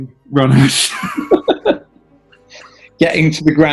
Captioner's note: laughing